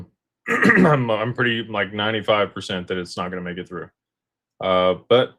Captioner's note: clears throat